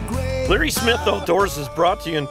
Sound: voiceover

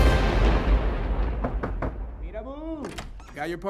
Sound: knocking

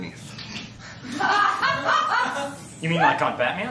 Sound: laughter

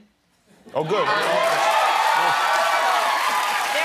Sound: applause

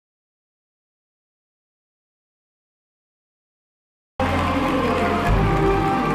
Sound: crowd cheers and applauds; whimsical music continues

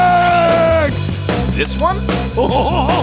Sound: laughing

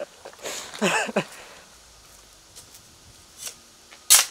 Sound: laughing

